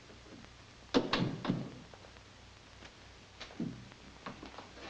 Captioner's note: door thuds shut